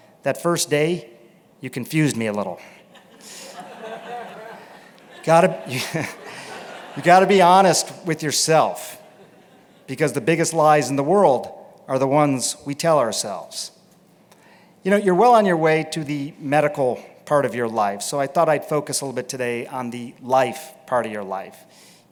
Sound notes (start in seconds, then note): 2.8 laughter; 6.0 laughs